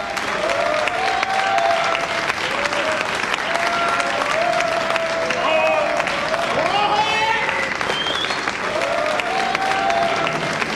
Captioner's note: applause